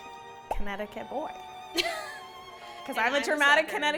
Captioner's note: laughing